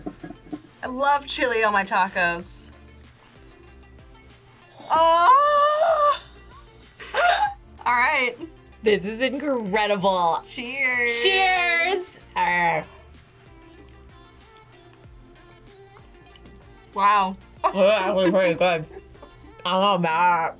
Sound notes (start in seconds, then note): 17.6 laughs